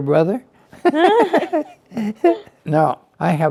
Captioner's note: both laugh